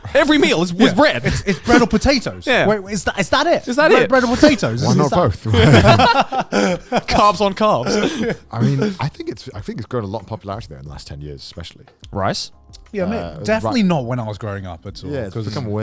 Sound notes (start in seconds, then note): 5.4 all laugh